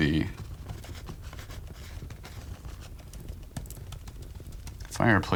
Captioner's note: crackling continues